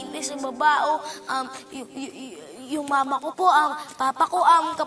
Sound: stammers

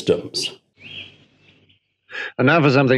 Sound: birds chirping

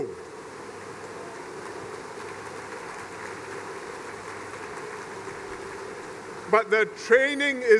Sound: applause

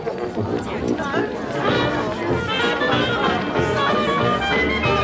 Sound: chattering

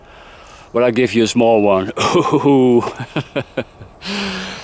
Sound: laughs

